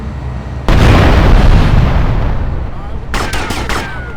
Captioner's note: gunfire